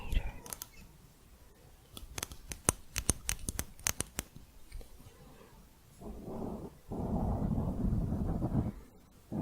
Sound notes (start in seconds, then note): 1.9 light tapping; 6.0 dense mic scratching